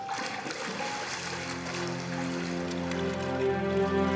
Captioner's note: splashing